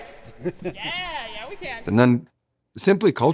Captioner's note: laughing